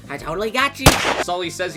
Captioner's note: gunshot